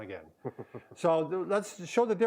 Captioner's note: chuckles